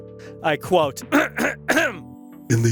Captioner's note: clears throat